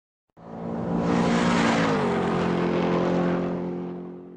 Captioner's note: car engine racing